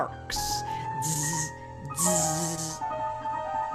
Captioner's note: buzzing